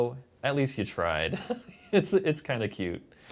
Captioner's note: laughs